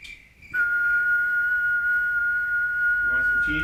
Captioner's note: whistling